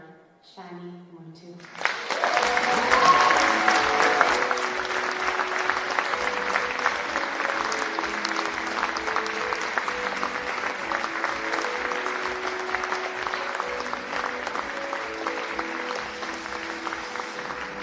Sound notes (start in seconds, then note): 6.2 cheering and Applause